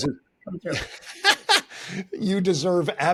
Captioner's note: laughing